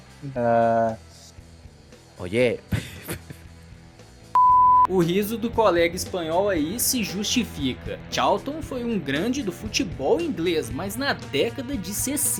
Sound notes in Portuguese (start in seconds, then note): 2.6 Risos